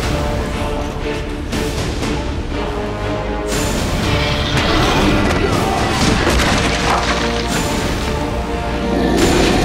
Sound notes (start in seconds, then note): 3.0 mummy growling